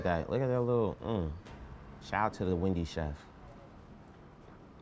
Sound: grunts in satisfaction

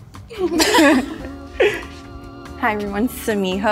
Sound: all giggling

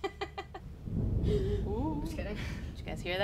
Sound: loud thunder

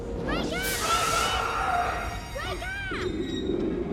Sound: screams

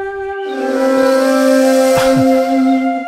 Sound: horn blares

